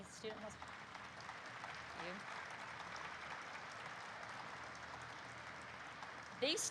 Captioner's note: applause erupts